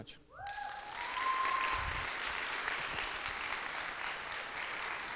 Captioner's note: audience clapping